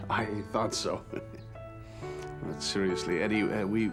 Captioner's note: chuckles